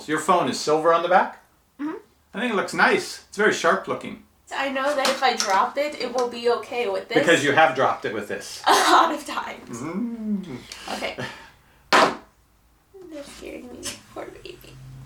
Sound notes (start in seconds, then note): 8.6 laughing